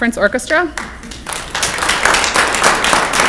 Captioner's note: clapping